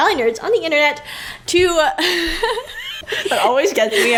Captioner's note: hehehe